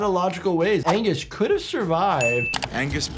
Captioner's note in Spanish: Campana sonando